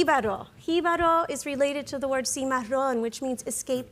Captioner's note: speaks in Spanish